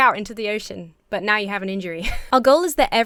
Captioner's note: laughs